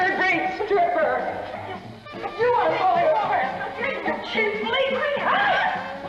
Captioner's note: incoherent screaming